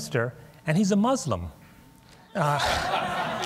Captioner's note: laughter